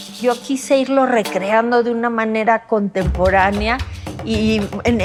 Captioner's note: speaking Spanish